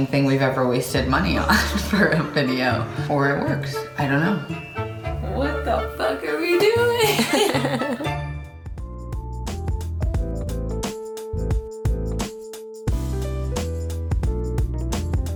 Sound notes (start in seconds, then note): 1.8 chuckles; 6.5 laughs; 8.6 lighthearted music